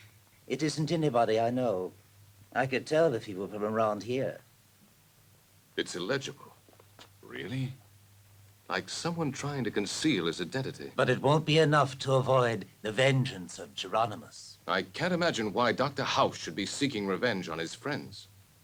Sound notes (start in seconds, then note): none